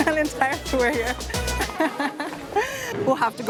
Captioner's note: laughs